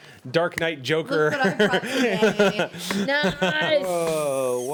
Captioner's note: man laughs